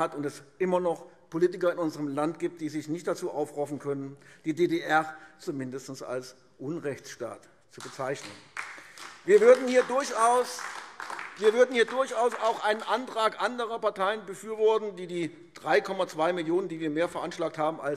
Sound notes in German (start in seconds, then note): 7.8 Beifall AfD